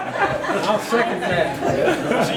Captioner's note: all laughing